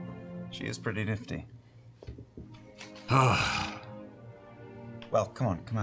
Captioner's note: sighs heavily